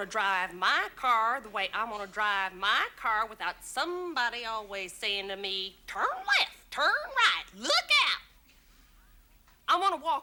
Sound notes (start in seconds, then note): none